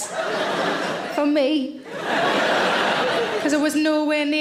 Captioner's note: audience laughing